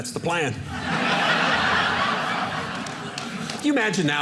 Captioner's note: audience laughing